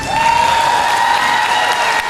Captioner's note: applause